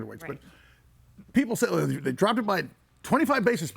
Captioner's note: none